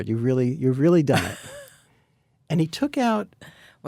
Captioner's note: Anna laughs